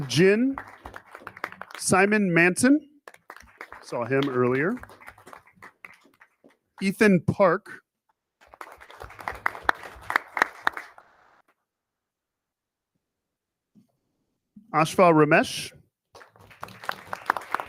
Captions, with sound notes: Ryan Gin. Simon Manson, saw him earlier. Ethan Park. (people clapping) Al Ramesh